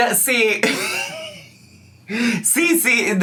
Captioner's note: laughs